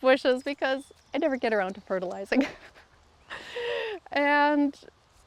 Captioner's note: laughs